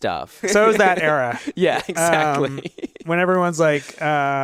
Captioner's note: laughs